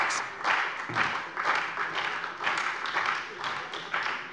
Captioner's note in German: Beifall bei der CDU und dem BÜNDNIS 90/DIE GRÜNEN